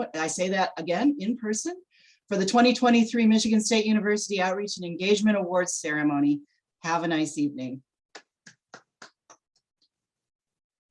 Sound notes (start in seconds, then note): 5.8 clapping